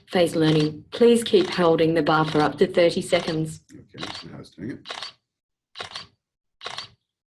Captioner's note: repeated camera shutter sound